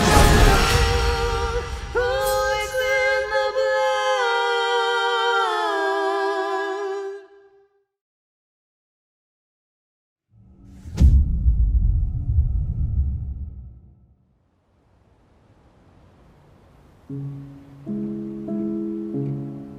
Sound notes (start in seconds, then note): 10.4 dramatic sound; 17.0 slow emotional music playing